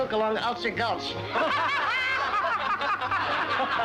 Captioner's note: laughing